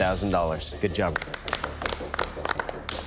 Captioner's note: applause